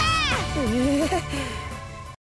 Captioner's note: nervous acknowledgment